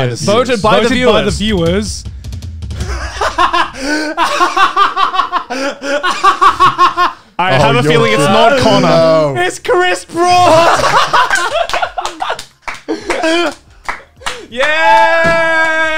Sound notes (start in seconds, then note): 0.0 drum roll; 1.1 laughing; 10.4 laughing and clapping